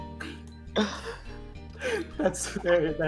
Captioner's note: laughter